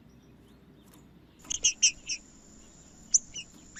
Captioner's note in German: trinca ferro cantando